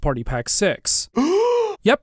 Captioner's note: gasp!